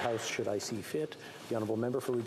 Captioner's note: applause